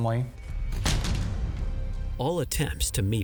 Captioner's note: suspenseful music; door slams